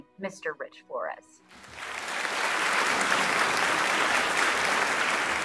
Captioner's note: audience clapping